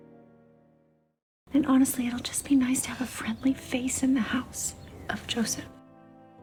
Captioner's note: voiceover